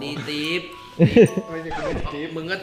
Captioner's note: Pat; chuckles